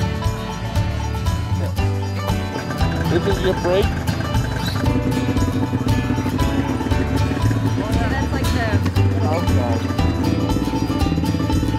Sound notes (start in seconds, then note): 0.1 country music; 5.1 snowmobile revving; 8.2 country music